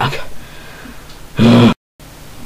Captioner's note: sigh